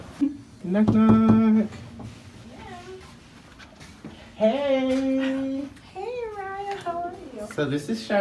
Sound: knocking

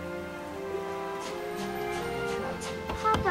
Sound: steam engine puffs

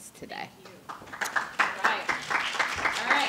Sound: applause

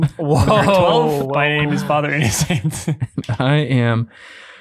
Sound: chuckling

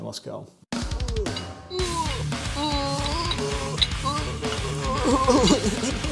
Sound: metal music; grunting

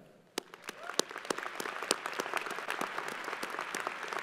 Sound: crowd applauding

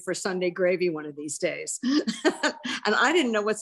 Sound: laughs

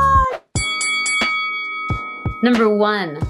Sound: bell ringing

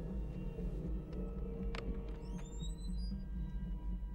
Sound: door Opening

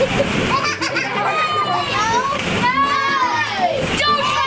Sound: child laughs

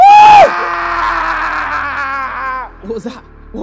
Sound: screaming

